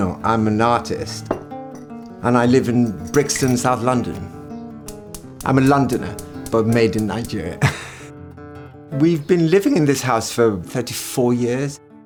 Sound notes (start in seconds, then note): 7.6 laughs